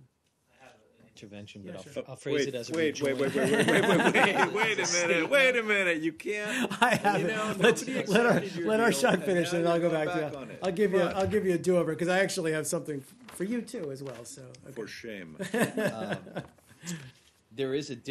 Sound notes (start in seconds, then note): 3.2 laughter; 15.4 laughter